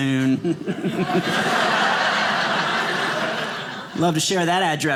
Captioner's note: audience laughing